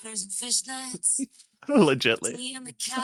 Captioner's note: laughing